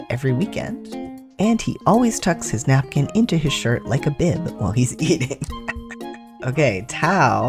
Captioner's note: laugh